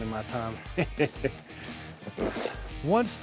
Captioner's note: chuckling